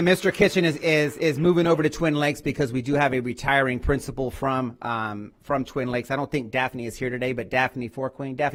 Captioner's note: applause